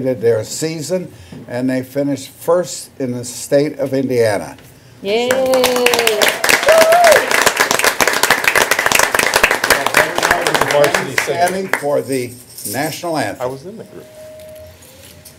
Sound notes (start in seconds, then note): 5.2 applause